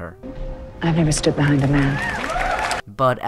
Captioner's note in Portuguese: palmas